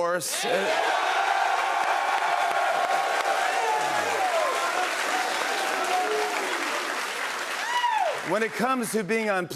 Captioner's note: cheers and applause